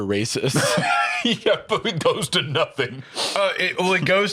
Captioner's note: laughs